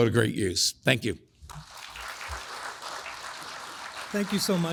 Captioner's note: audience applauds